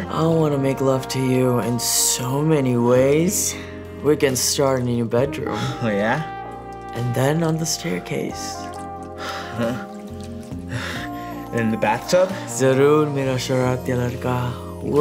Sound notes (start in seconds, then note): 8.2 moaning; 8.7 gentle music; 13.5 speaking Hindi